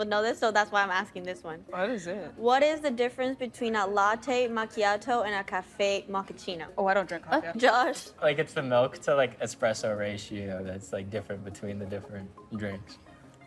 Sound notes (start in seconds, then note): none